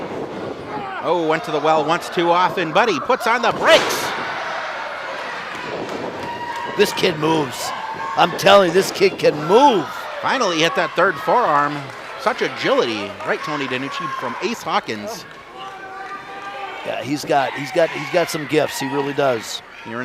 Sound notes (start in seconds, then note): 4.5 audience cheers; 10.3 audience cheers; 15.2 shouting